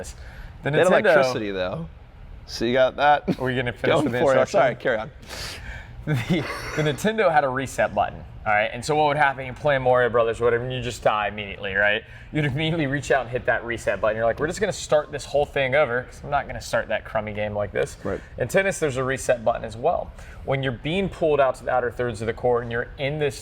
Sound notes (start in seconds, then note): 6.1 snickering